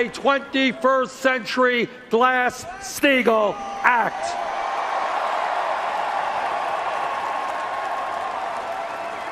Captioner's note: cheers and Applause